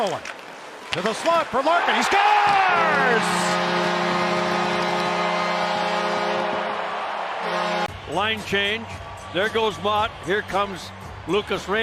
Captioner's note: goal horn